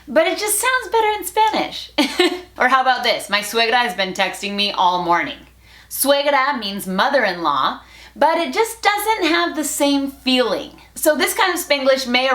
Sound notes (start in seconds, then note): 2.0 laughs; 5.1 Spanglish